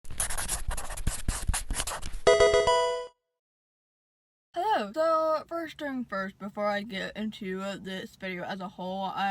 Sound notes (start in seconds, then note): 0.1 marker scratching; 2.2 electronic game chime